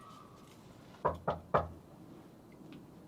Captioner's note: knocking on door